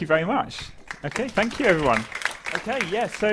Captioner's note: applause